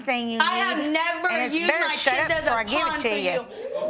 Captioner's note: audience react